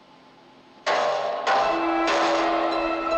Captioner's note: loud clanging